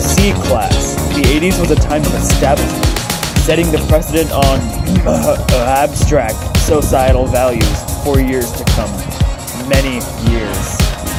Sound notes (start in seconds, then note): 4.8 cough